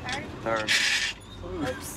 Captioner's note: gears grind